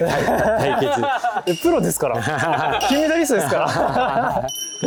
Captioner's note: laughs